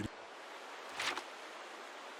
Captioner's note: paper crinkle; water softly gushing from fountain